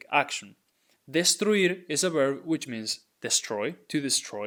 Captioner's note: speaking in Spanish